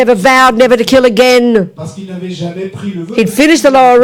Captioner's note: speaking in French